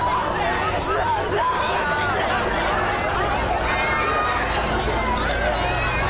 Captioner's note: pandemonium